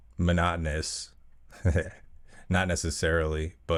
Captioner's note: laugh